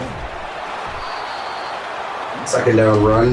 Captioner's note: crowd Noises